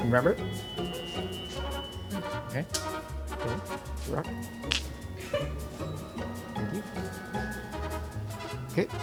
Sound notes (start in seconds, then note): 0.9 whimsical music; 4.7 rocks clicking; 5.2 crew member laughs; 5.3 whimsical music